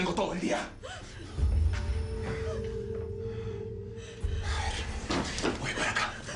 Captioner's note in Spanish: Jadeos nerviosos de ella